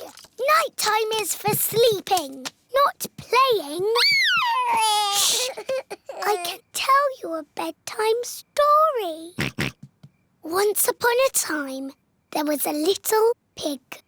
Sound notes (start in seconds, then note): 3.9 cries; 9.4 oinks